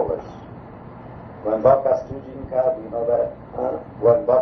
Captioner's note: speaks polish